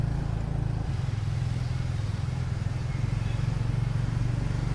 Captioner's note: street noise